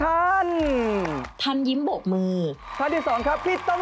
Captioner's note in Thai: เสียงเอฟเฟกต์ปรบมือ